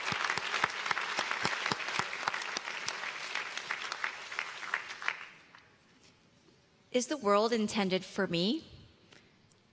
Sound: cheers and applause

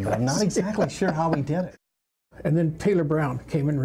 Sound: laughing

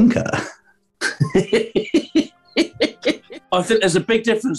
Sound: giggling

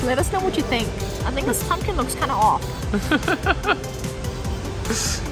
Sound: laughs

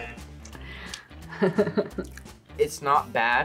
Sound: buzzer rings; laughs

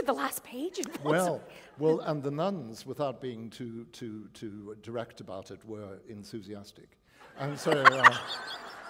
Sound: laughter

